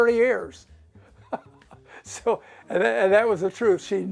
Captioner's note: laughter